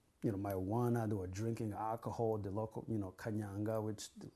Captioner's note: non-english